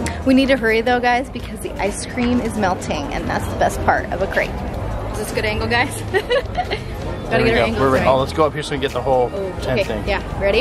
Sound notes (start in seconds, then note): 6.0 laughs